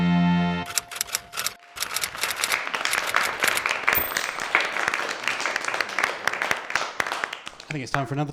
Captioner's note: applause